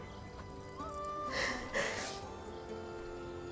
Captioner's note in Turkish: Ağlama sesi